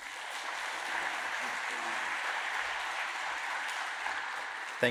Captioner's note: audience applauds